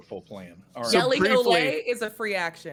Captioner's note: speaks Spanish